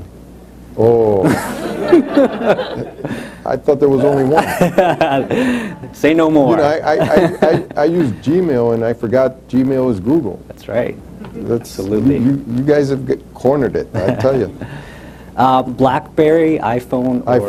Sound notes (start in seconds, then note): 2.8 laughter; 4.0 laughs; 13.9 laughs